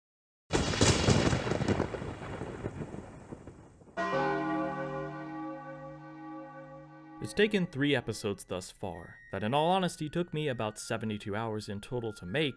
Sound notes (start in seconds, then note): 0.5 thunder, sounds of rain; 4.0 Clock Town's bell tolls